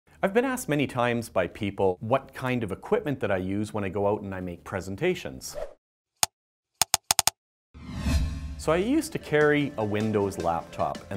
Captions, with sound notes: - I've been asked many times by people what kind of equipment that I use when I go out and I make presentations. (keyboard clacking) So I used to carry a Windows laptop,